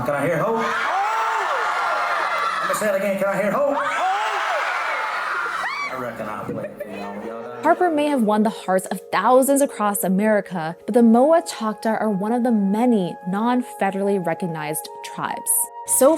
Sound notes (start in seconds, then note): 1.2 crowd; 4.1 crowd